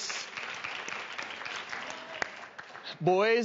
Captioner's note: applause